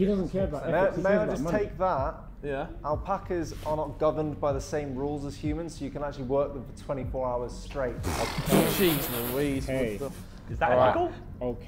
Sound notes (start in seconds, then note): 8.7 Sidemen laughing